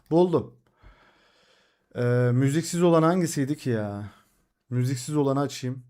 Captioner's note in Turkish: iç çeker